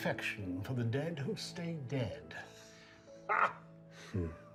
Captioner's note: laughs